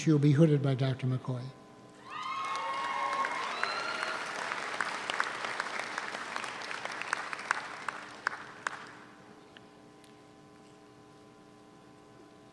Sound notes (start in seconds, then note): 2.0 audience cheers; 2.1 audience applauds